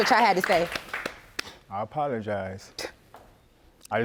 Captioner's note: scoffs